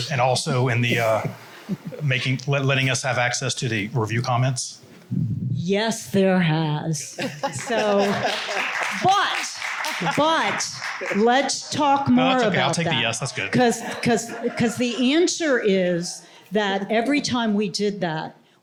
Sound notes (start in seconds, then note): 7.0 laughter; 7.4 applause